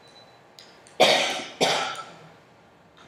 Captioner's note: coughing